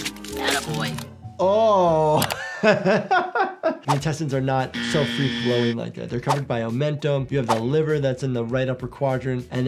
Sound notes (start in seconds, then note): 2.3 laughs